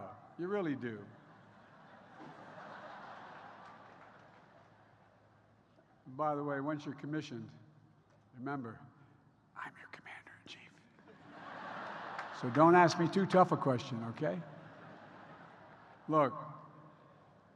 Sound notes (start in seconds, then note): 1.0 laughter; 11.0 laughter